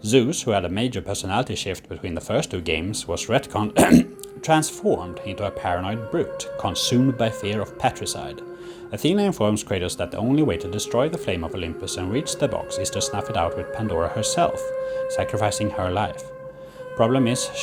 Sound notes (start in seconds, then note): 3.7 cough